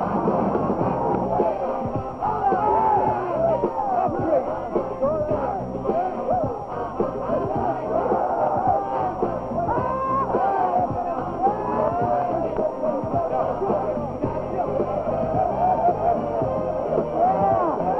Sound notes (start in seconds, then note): 3.3 team celebrating